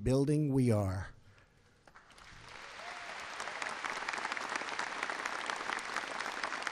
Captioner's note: applause